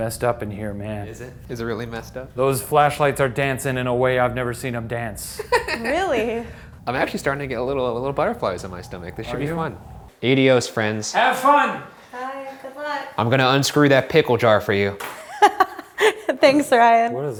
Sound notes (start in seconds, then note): 5.3 laughs; 15.3 laughs